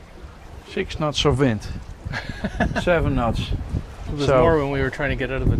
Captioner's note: laughs